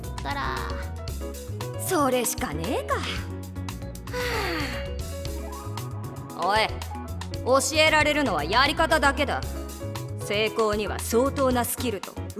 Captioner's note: sigh